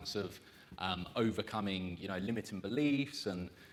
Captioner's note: none